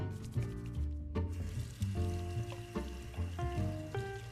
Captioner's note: rustling; splashing